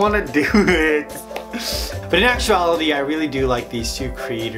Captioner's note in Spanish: Risas